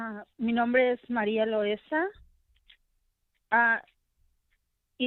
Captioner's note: speaking Spanish